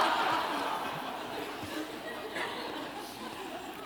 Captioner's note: laughter